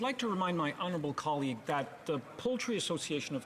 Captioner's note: speaking French